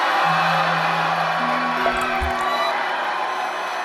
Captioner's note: cheering